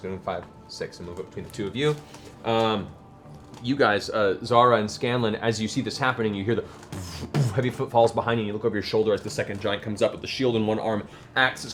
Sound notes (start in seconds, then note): 6.9 heavy steps